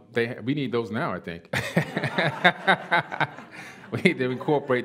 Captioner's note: laughter